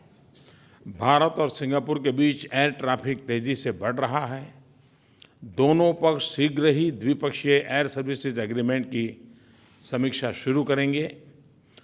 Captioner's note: PM Modi speaks in Hindi